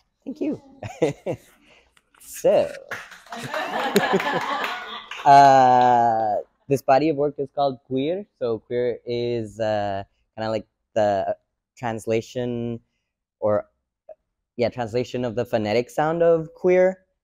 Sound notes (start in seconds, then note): 0.4 giggles; 2.9 audience applause